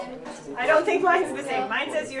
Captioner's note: chatting